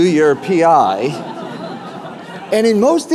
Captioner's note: laughter